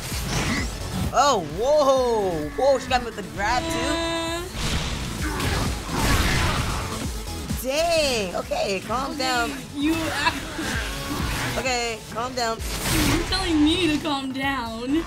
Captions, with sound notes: Oh, whoa! Whoa, she got with the grab too? (Charizard growls) Dang! Okay, calm down. - You-- (laughing) - Okay, calm down. - You're telling me to calm down?